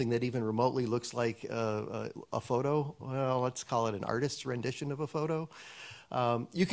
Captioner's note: none